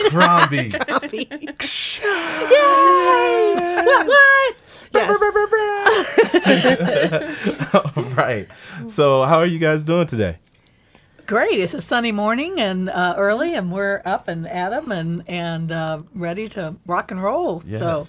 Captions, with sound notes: - Crombie. (cheering) (laughing) So how are you guys doing today? - Great. It's a sunny morning and early and we're up and at 'em and ready to rock and roll.